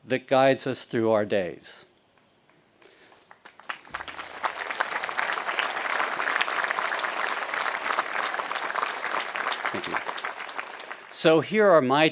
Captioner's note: audience applauding